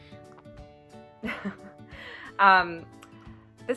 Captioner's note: laughter